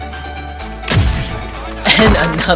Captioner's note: gun shooting